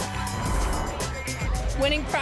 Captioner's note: whoosh